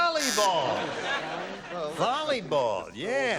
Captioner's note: buzzer